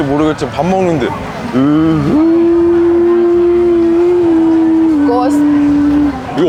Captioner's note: laughing